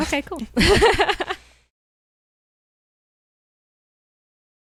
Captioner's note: both laughing